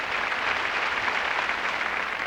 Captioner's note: applause